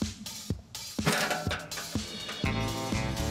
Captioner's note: up-tempo music playing; scale rattling